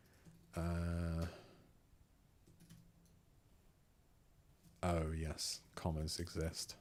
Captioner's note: silence